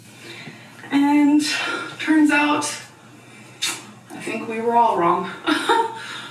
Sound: laughs

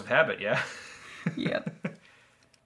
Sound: laughs

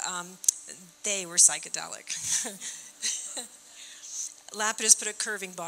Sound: chuckling

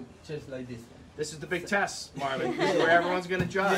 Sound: laughter

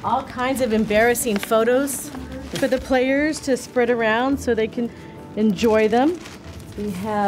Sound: none

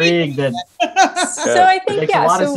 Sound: laughing

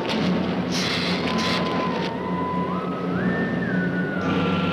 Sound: gila monster hisses

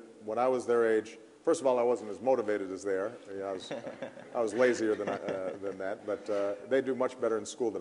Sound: laughter

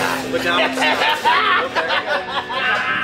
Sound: laughing

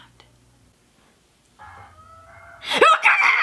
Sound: screeching; screams

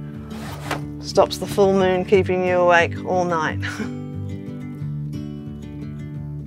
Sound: chuckles

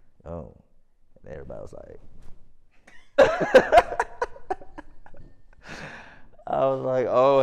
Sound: laughs

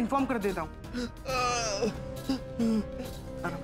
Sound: yelps

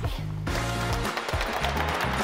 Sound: upbeat music; applause

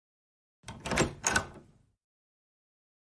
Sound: door opens

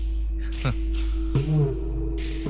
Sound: chuckles

